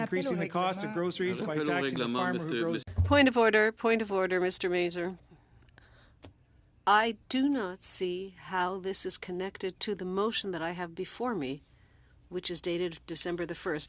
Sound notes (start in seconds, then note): 4.7 speaking French